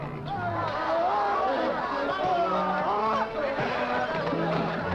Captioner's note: men shouting